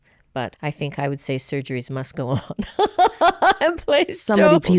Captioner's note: laughs